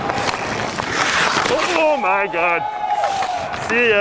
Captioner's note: players cheering